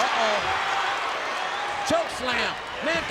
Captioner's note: audience cheers